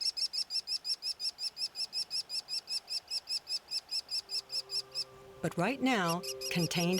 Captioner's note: chirping